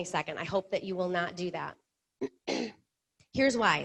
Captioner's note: clears throat